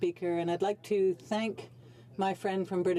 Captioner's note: speaking French